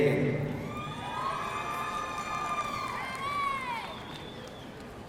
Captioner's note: audience cheering